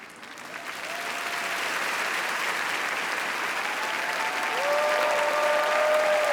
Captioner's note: audience applauding and cheering